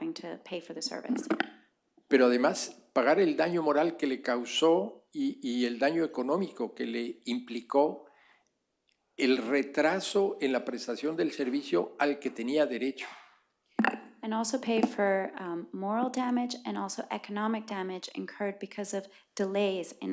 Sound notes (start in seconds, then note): 7.2 speaking spanish